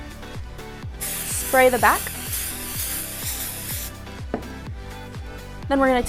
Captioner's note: aerosol can spraying